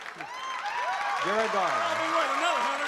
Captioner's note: cheering